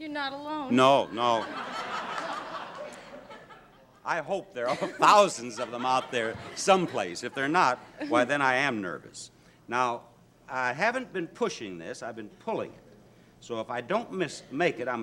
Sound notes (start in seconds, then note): 1.0 audience laughs